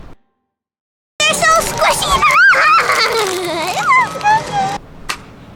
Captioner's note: squeals